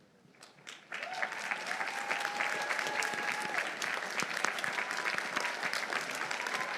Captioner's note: audience applauding; audience cheering